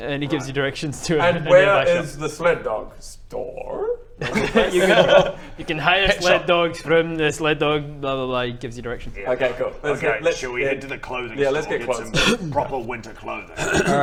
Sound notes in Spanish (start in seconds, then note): 4.2 risas